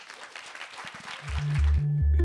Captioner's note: applause